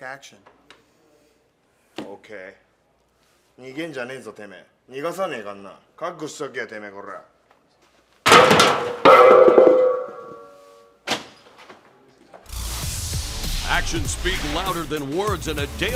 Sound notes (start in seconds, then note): 7.6 speaking foreign language; 8.2 crashing